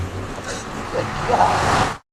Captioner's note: exhales